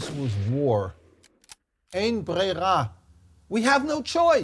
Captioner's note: speaks in Hebrew